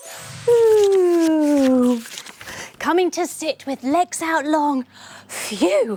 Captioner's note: sighing in relief